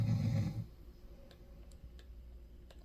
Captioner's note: snoring